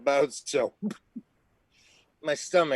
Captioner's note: gagging